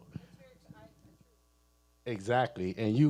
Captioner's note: speaking away from mic